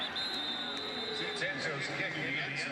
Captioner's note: whistle; pa announcement